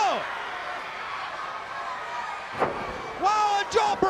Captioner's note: crowd cheering